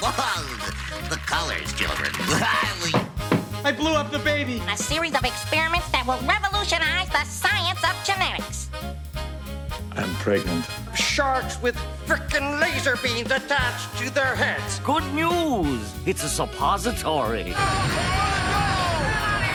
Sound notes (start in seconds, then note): 2.8 baby knocking